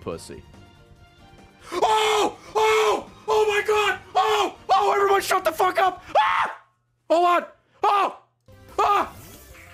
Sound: screams

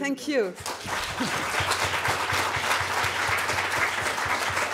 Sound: audience applauding

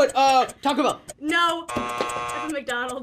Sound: buzzer

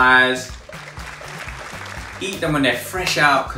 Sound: crowd applauding

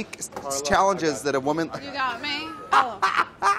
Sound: laughs

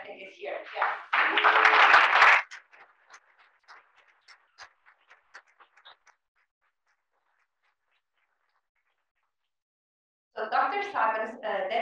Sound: applause

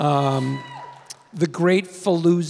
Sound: audience member cheers

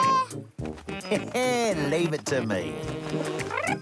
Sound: laughs; gurdy trills

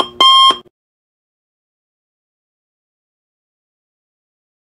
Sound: no Music

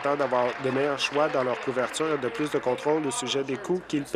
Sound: applause

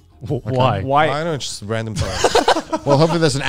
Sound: all laughing

